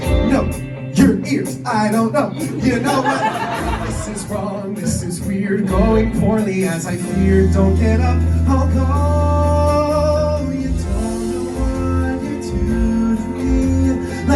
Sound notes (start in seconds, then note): 2.2 audience laughing